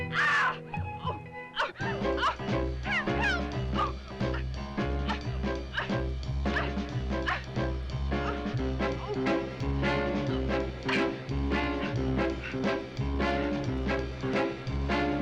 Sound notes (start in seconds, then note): 0.0 Bunny screams; 3.9 Bunny grunting; 3.9 dramatic music